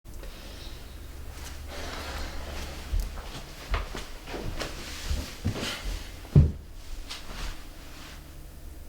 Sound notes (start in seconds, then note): 1.4 rustling, sighing